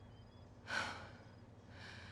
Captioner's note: she exhales